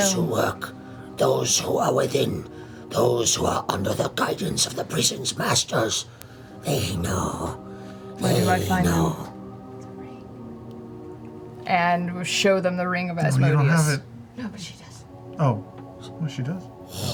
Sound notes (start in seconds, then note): 10.7 whispers; 15.0 whispers